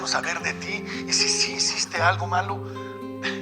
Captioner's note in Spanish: Sollozos